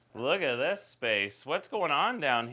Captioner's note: none